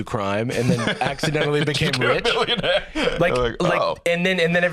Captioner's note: laughing